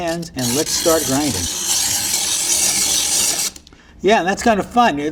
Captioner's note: ice screeching